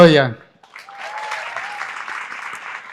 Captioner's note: applause